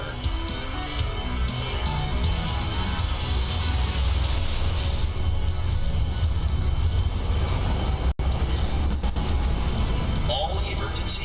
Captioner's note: alarms & Bells